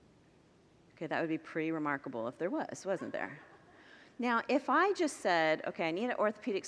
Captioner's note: congregants laugh